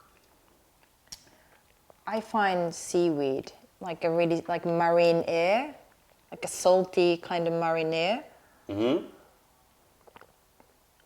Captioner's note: sips tea